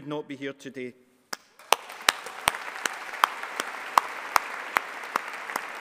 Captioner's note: all applauding